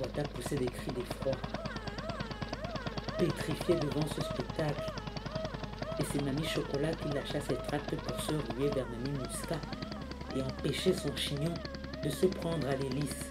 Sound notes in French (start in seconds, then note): 1.7 bruits de sirène